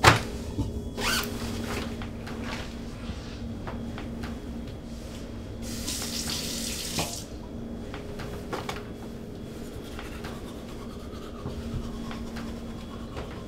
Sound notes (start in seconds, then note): 1.0 bag unzips; 5.6 water running; 9.6 toothbrush swishing